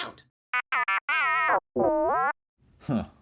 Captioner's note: R5-40: complacent beeps